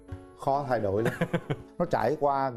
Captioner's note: laughing